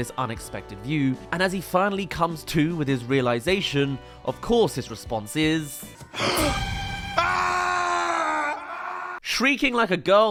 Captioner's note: ahhh!